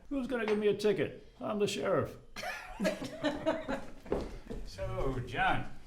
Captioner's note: all laughing